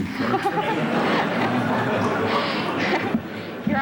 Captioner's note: laughter